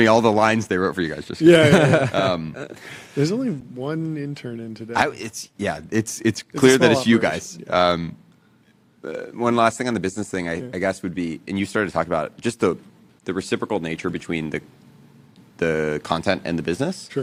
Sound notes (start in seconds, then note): 1.5 laughs